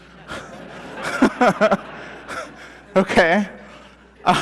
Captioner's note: laughter